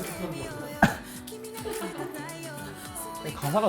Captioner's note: awkward chuckle